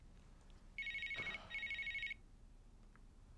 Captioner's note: handy ringing